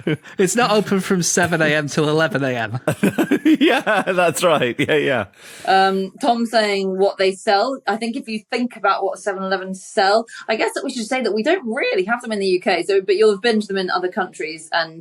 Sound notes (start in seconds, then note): 2.7 laughs